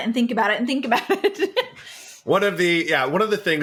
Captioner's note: laughs